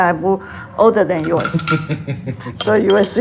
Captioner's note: chuckles